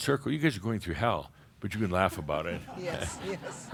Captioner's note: a few chuckles